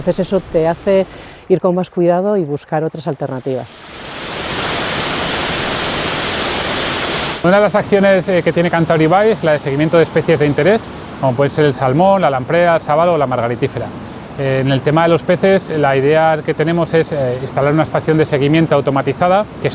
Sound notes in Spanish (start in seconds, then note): 3.0 Sonido de cascada de agua